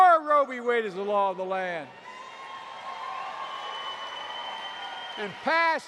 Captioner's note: applause